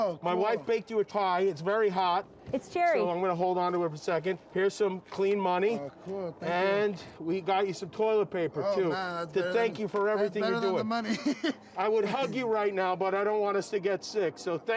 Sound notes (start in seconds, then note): 10.4 \laughs\